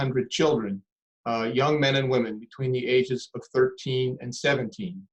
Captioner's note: none